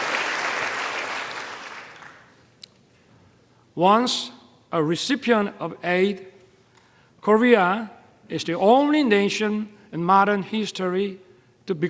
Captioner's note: applause